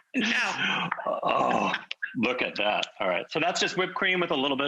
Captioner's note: sighing